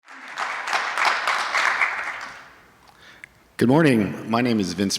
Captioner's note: audience applauding